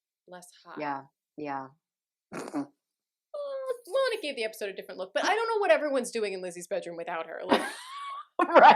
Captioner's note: snorts